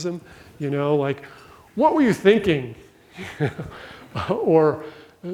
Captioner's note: laughs